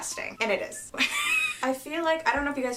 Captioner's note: laughing